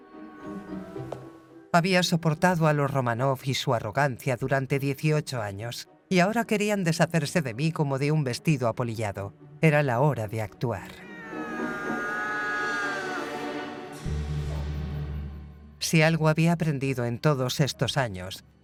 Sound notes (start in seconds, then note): 11.0 cat meows; 13.9 dramatic music